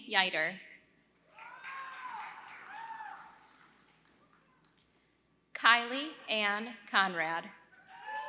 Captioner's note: applause; applause